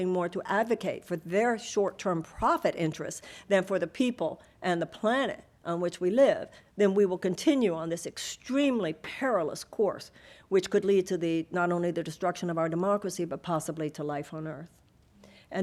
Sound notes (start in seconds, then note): none